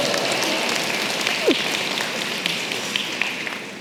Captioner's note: applause